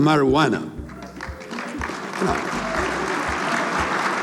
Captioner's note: applause